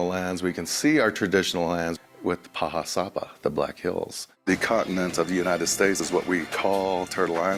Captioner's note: speaking native language